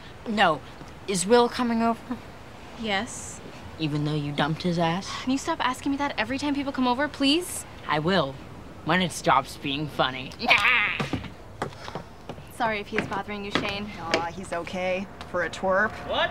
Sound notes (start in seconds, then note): 10.4 laugh